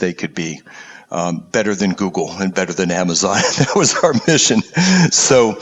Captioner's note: laugh